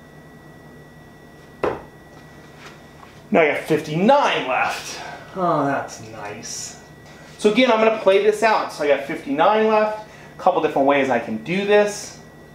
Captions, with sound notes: (thuds) Now I got 59 left, oh, that's nice. So again, I'm gonna play this out. So I got 59 left, a couple different ways I can do this.